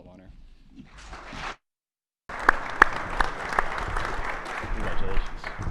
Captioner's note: attendees clapping